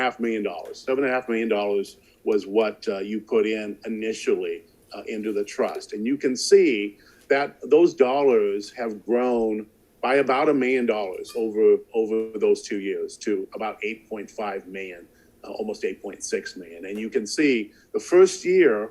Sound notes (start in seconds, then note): none